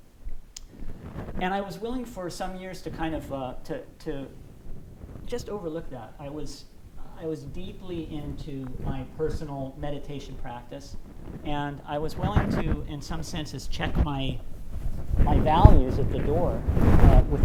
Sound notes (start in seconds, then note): none